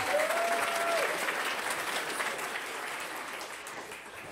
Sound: applause

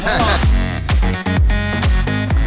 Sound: interviewer laughs; upbeat music

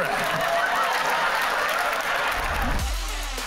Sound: laughter and applause

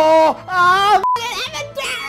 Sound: beep

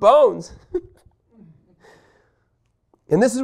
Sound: laughing

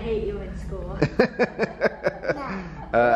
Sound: laughing

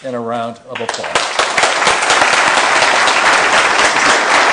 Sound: applause

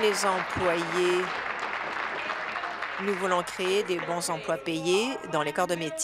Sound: applause

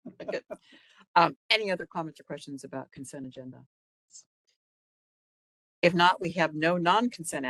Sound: laughing

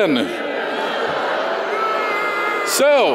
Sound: audience boos

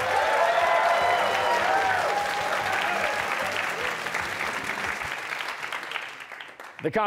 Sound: cheers and applause

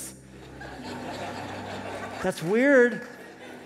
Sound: laughter

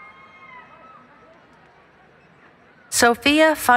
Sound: cheering

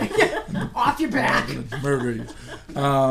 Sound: voiceover

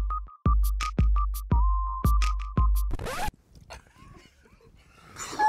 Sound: pop beat; record scratches; both laughing

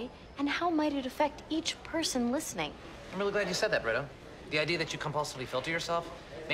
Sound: none

